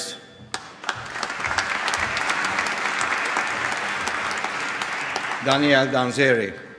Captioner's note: applause